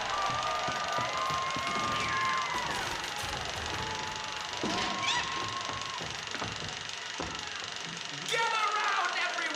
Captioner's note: cheers and applause